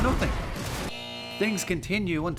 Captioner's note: buzzer sound